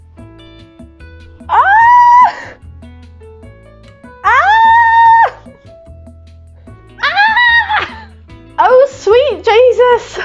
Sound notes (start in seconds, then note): 1.4 screaming